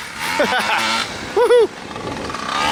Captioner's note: laughs